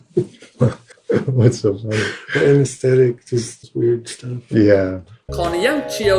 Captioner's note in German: Gelächter